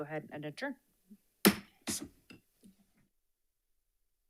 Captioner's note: gavel bangs